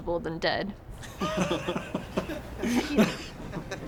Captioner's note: laughter; gasps